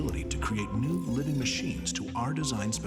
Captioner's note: metal squeaking